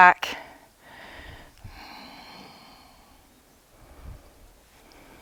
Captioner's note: deep breathing